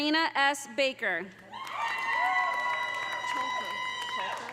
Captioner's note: audience cheering; audience applauding